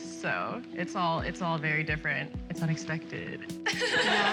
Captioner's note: laughter